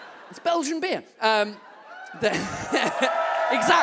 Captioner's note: audience whoops and claps